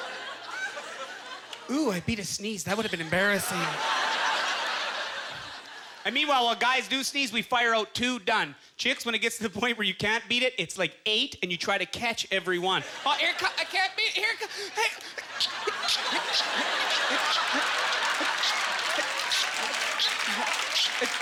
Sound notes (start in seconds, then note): 2.7 audience laughter; 14.4 rapid sneezing; 18.2 audience laughter